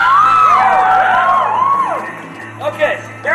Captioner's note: audience cheering